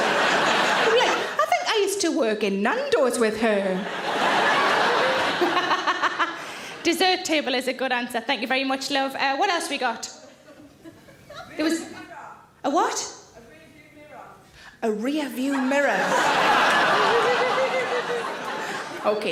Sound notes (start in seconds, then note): 0.0 audience laughing; 3.7 audience laughing; 5.8 laughs; 15.6 audience laughing